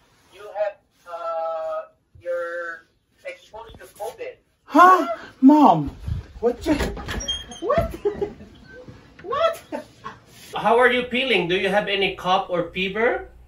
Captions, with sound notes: You have uh... You're... exposed to covid... Huh!? Mom! What you.. What!? [laughs] What!? [laughs] How are your feeling? Do you have any cough or fever?